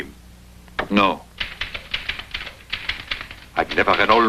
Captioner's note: typing